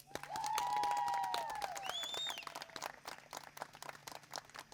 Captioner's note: audience cheering